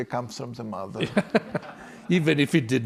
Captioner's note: and class laugh